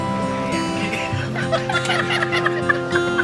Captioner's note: laughing